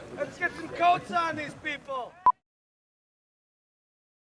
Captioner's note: beep